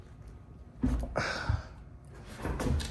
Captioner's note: sighs